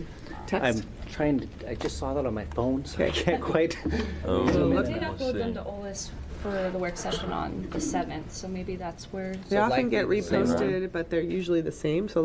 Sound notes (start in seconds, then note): 4.1 chatter